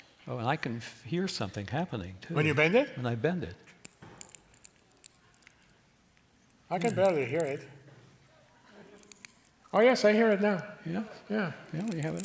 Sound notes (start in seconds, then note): 3.8 tin crackling; 8.9 tin crinkling more loudly